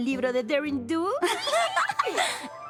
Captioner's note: squeal